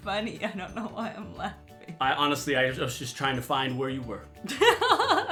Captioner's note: laughing; laughs